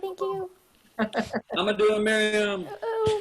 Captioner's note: laugh